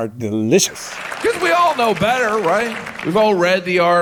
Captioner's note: audience applauding